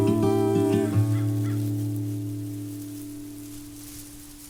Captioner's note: bird calls